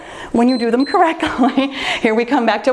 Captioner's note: timer beeps